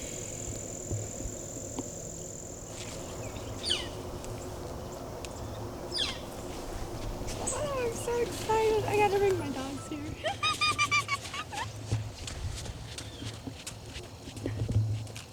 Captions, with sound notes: (birds chirping) Oh, I'm so excited. I gotta ring my dogs here. (laughing)